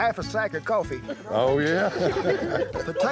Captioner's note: laughter